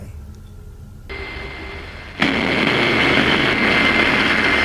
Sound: static buzzing

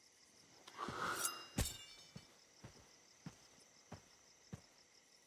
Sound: machete clatters

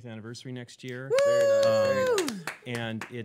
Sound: cheering

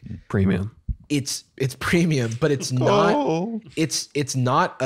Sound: hoarse wailing

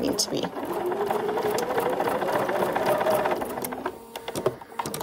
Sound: sewing machine whirring

